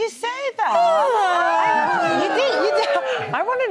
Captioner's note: crowd oohs